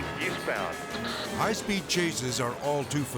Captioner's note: siren wailing